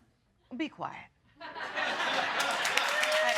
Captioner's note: audience laughing; audience clapping and cheering